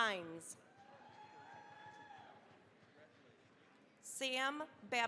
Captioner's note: cheering, applause